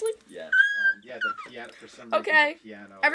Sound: squealing

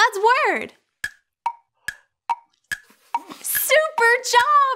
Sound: clock ticking

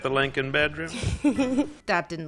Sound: Hillary laughs

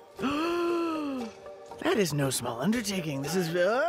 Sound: gasps

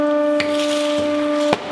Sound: psssssssh

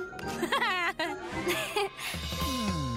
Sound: laughing

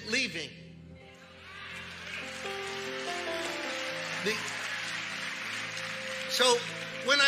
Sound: congregation clapping and cheering

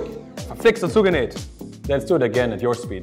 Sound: foreign language

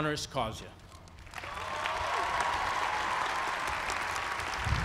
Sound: applause

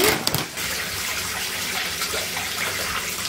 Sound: sound of running bath water

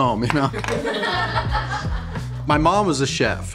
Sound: laughing

